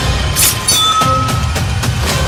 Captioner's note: knife swipe and clink